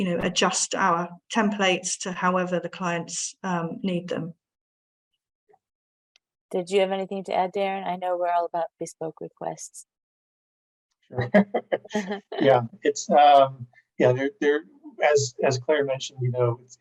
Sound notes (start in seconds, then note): 11.2 laughs